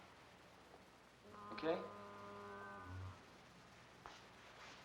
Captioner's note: distant foghorn blows